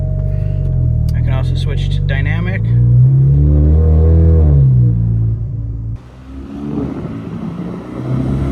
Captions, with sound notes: I can also switch to dynamic. (engine rumble)